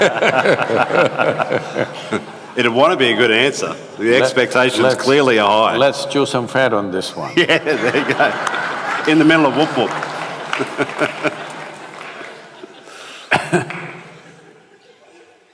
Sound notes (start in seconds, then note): 0.0 both laugh; 7.0 laughter/Applause; 14.4 laughter